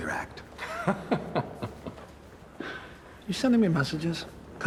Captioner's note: Chuck laughs